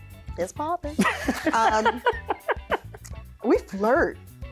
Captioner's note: laughs